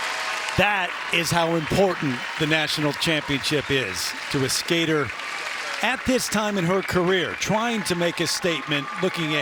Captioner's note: cheers and applause